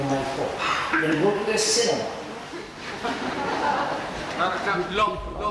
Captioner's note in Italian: risate